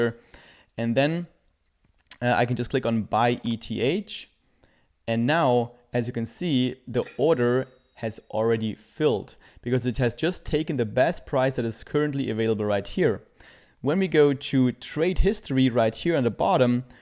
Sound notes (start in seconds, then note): 7.0 bell chimes